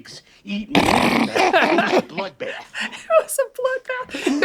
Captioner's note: Danny laughs loudly